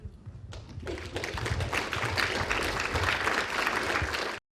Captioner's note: applause